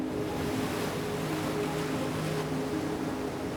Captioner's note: waves splashing